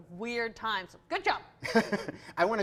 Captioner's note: laughs